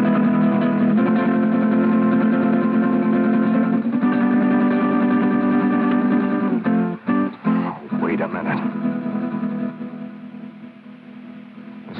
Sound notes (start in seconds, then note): none